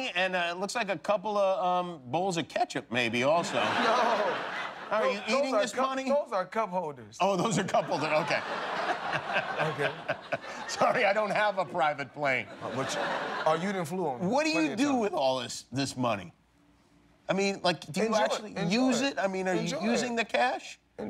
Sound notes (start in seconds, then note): 5.7 laughter; 12.4 laughter